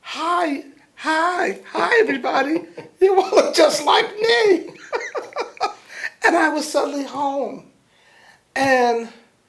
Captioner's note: laughter